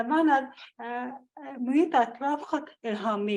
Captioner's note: foreign language